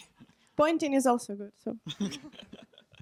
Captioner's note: voiceover